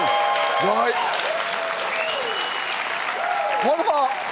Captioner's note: cheering, applause continues; audience member whistles